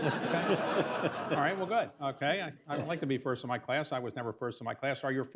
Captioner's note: laughter